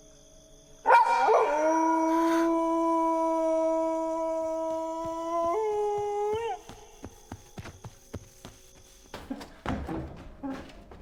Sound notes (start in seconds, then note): 3.2 howling; 7.2 footsteps